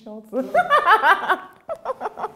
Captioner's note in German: Sie lacht